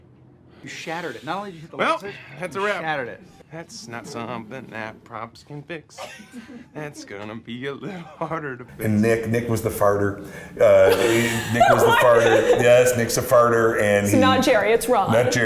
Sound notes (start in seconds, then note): 6.0 Amy laughs